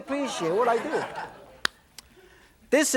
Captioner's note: laughter